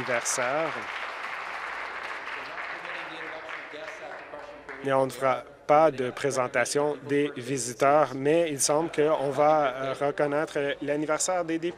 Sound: applause

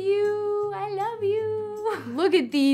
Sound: chuckles

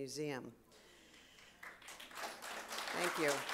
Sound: audience claps

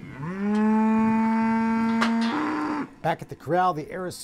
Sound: cow mooing

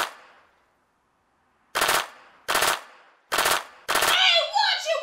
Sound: machine gun; machine gun

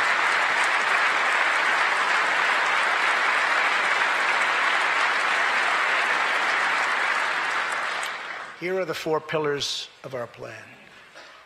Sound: applause

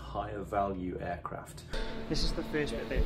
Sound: machine noises buzzing

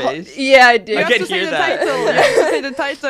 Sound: laughs

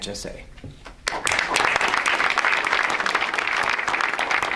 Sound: audience applauds

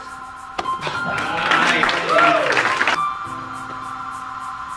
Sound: applauding

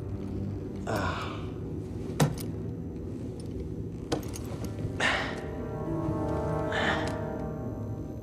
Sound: grunts

